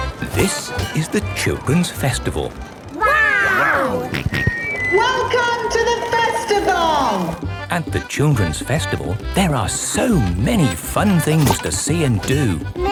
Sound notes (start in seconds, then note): 4.1 on microphone; 6.3 jolly folk music